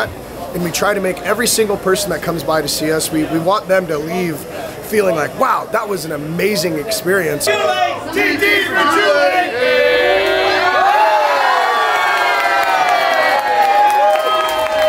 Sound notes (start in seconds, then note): 9.7 crowd cheering; 10.0 crowd clapping and shouting